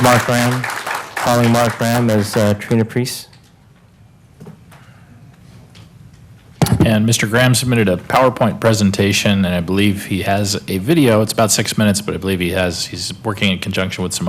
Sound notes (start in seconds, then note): 0.0 applause; 4.4 applause